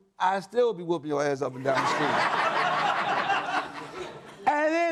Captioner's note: audience laughs